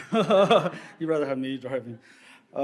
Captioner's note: laughs